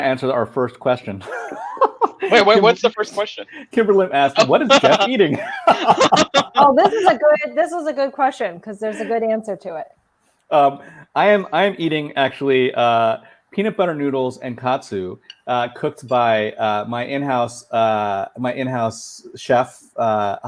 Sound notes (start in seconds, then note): 4.3 laughing